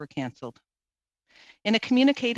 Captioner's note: speaking in French